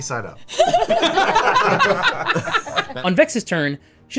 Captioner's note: laughing